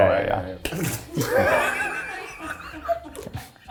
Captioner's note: laughing